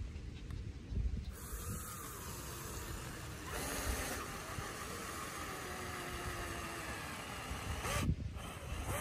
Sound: power drill noise

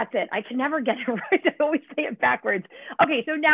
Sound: laughter

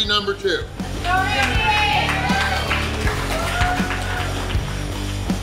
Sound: crowd cheering

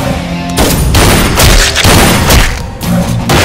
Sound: gunshot

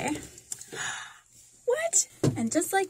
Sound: gasp

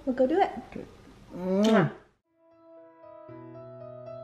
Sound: kisses; inspirational music

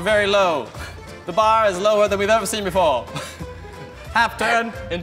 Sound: laughs

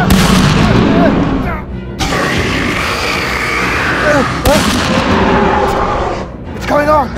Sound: gunshot Sounds

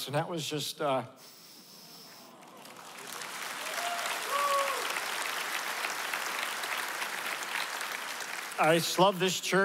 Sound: applause

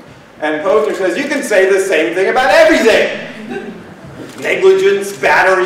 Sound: laughter

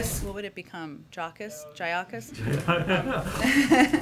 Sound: laughter

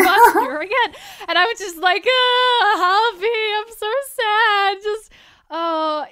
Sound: ugly crying sounds

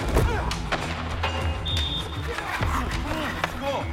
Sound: whistling; hockey sounds, fighting sounds

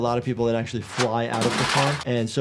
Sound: person clatters

